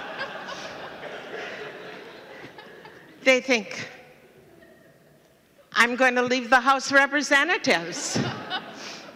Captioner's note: laughter